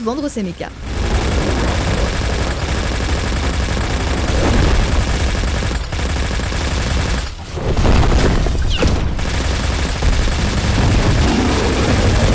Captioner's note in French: bruits de combat répétitifs